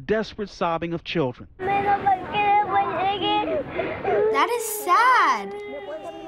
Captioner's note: child sobbing